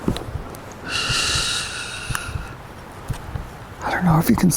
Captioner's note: shushes